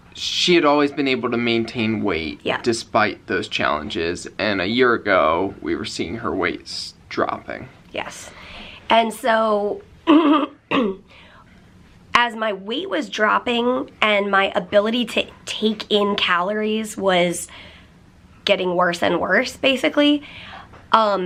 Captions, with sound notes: she had always been able to maintain weight. Yeah. Despite those challenges, and a year ago we were seeing her weights dropping. Yes, and so... [clears throat] As my weight was dropping and my ability to take in calories was getting worse and worse, basically, um